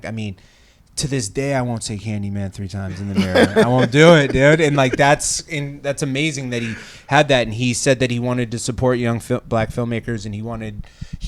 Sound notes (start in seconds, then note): 2.9 laughs